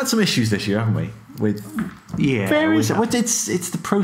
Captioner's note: grumbling